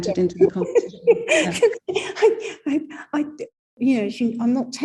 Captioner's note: laughing